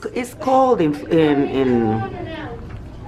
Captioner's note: customer talking